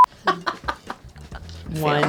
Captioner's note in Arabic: يضحك